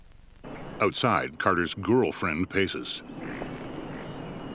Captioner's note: birds chirping